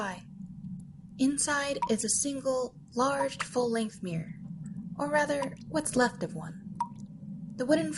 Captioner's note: water dripping